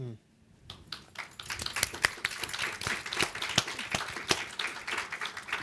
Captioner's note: audience applauding